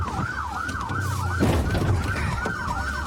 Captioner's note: bangs